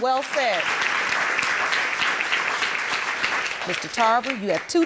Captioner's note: audience applauding